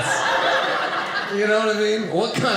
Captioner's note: audience laughing